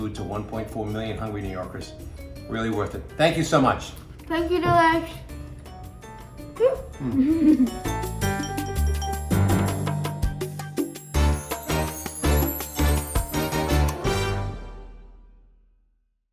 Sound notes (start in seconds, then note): 6.6 giggling; 8.2 upbeat music